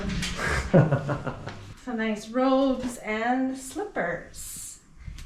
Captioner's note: laughs